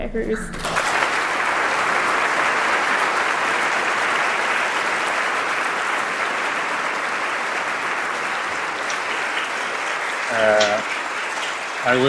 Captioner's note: applause